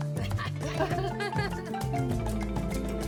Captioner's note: laughter